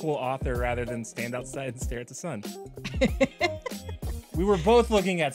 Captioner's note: laughs